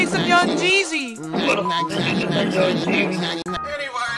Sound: beep

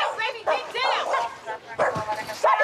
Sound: barking

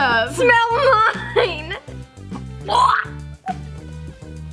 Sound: retches; bouncy, melodic music

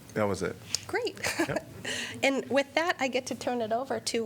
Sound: laughter

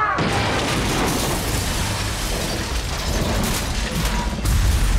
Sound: objects crackling

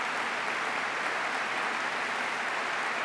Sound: applause

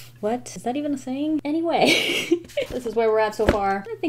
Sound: laughs

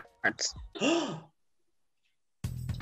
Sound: gasp!

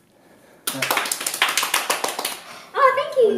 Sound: clapping

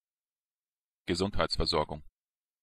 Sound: fast Pronunciation

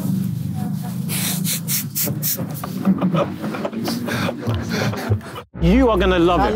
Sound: Simon and Josh laughing

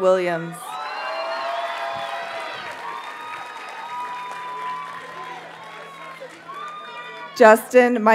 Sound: audience cheers and applauds

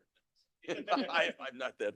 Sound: laughing

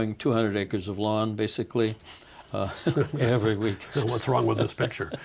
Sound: laughing

